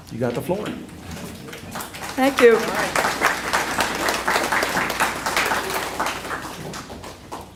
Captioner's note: applause